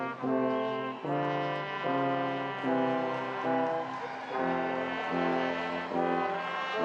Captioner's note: audience applauding and cheering